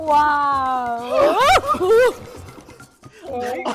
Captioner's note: screams